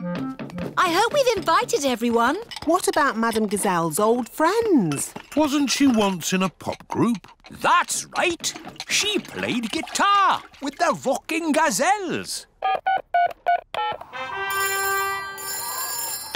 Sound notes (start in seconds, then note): 13.1 dialing; 14.4 phone rings